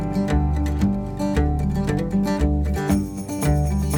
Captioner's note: none